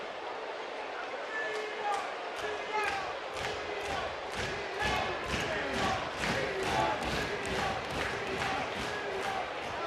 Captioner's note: cheering